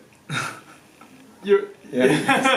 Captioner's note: laughing; laughs